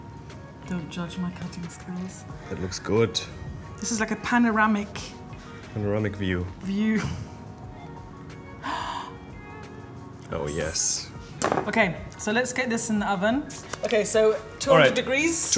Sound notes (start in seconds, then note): 8.6 gasping